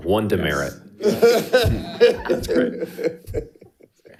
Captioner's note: all chuckling